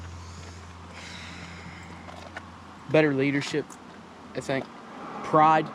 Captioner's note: sighs